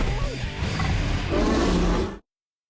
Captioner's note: roars